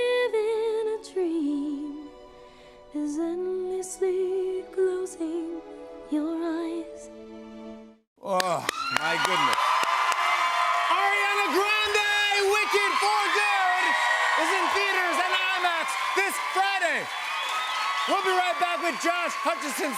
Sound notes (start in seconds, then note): 9.2 cheers and applause